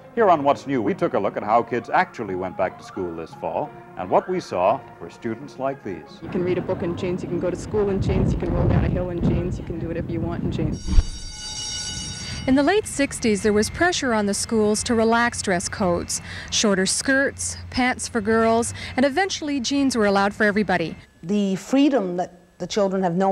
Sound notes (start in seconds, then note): 10.7 school bell rings